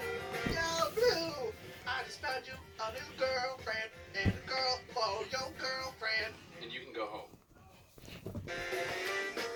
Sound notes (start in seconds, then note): 1.1 autotuned voice